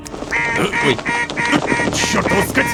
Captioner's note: goose in alarm mode